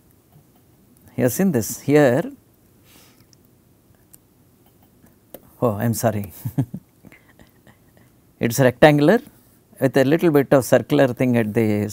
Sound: laugher

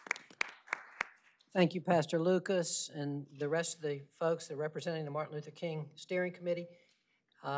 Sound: applause

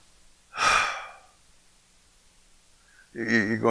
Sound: he exhales

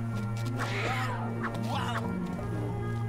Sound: growling

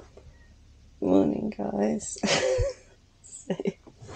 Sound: tired laugh

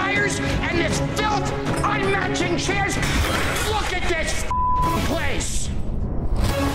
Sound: beep

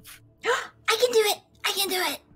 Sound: gasps

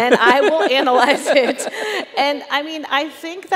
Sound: chuckles

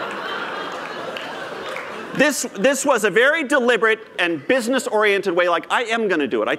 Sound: laughter

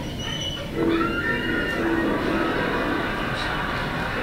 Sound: screaming

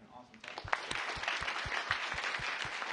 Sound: applause

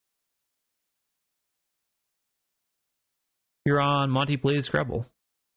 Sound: silence

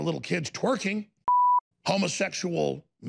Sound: high-pitched beep

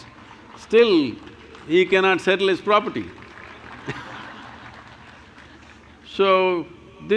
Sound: laughter/Applause

